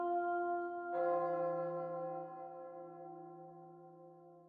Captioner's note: church bell chimes